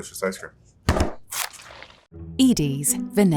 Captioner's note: tub thudding